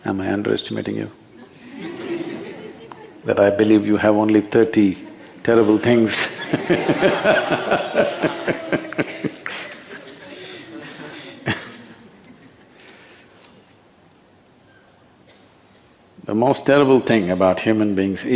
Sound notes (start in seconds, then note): 1.8 few laugh; 9.6 laughter